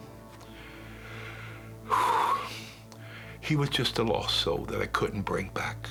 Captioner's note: sighs